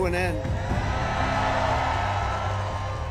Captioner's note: crowd cheers and applauds